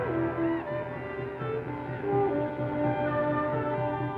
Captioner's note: distant war cry